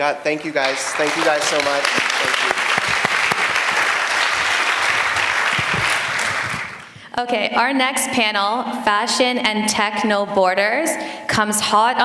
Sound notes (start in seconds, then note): 1.9 applause